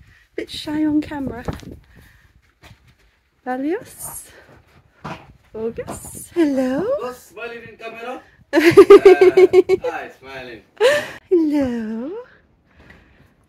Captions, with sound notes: Bit shy on camera? Balios. Bogoss. Hello. - Bogoss, smile on camera! - [laughing] - There. Ah, he's smiling. Hello